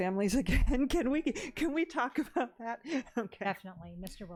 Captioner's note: laughs